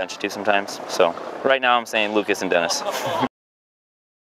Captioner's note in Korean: 웃음